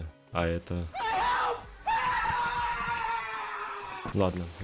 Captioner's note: Tyler1 screams terribly